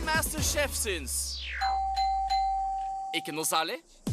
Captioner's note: dinging